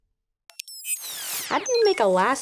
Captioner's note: beeping